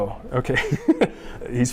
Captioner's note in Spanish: risas